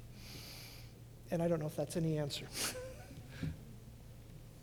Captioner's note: laughs